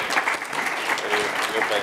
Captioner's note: applause